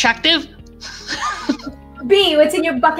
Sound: chuckles

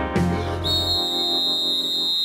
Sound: whistle blowing

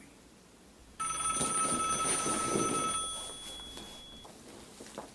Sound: phone ringing

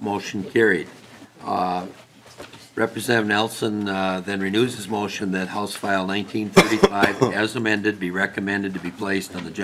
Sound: chorus of ayes

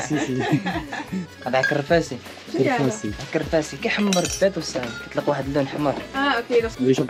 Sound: foreign language

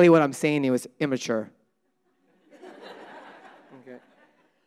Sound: audience laughing

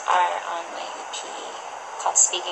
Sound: background ocean sounds

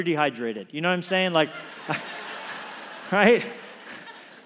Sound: congregation laughs

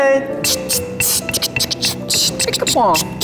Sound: beatboxing

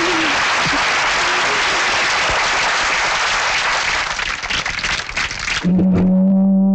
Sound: applauding

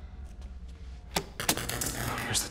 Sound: electricity crackling

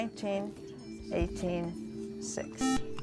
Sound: buzzer

